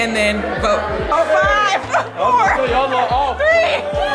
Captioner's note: guests chattering